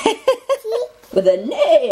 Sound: laughing

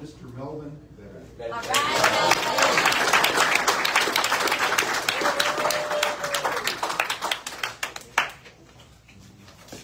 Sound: audience cheers and applauds

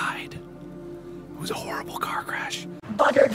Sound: whispering; still whispering

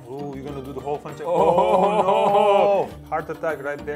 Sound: laughing

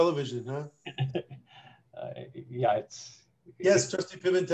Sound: laughter

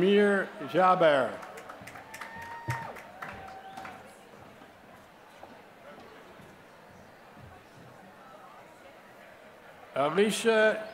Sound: applause

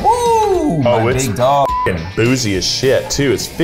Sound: beep

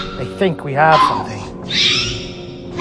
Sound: raptor Squeals and Hisses

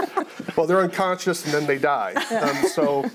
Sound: others laugh

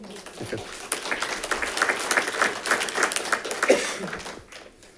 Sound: congregation claps

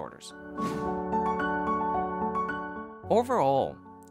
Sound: transition whooshing

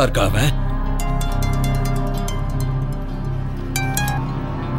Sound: phone rings

